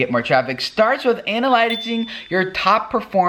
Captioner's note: pinging